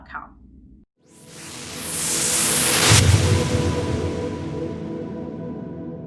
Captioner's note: whooshing